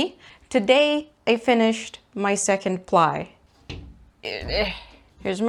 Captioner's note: gremliny door opening noises